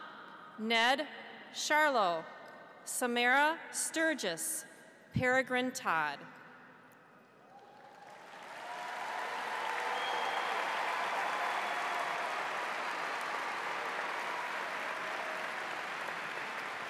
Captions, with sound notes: Ned Sharlow. Samara Sturgis. Paragrin Todd. (audience applauds) (cheering)